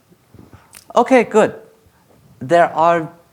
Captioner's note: snaps fingers